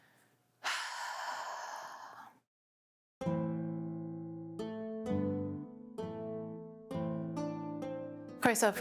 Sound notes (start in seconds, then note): 0.6 sigh